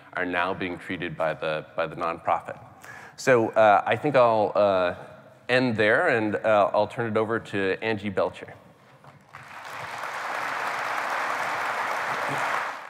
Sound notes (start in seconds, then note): 9.2 applause